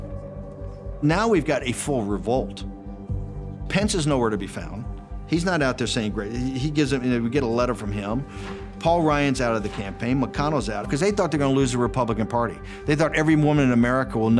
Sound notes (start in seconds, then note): none